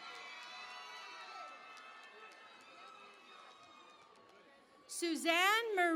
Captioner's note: cheering and Applause